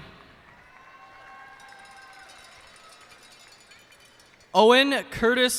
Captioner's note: cheers and applause